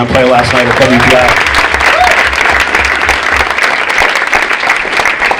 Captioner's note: audience applauding